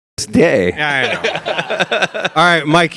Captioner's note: all laughing